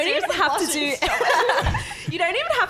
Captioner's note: laughing